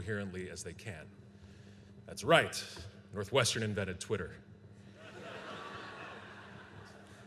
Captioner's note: laughter